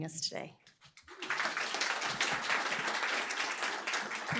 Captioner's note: applause